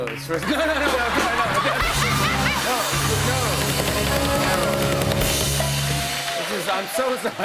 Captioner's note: laughter